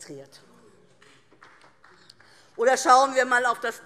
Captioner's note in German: Beifall DIE LINKE